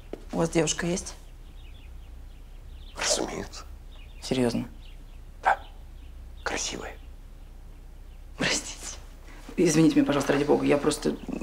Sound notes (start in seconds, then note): none